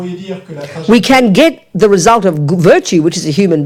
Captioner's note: speaking in French